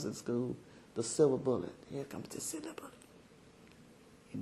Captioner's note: whispering